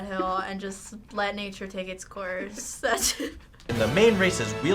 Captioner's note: laughs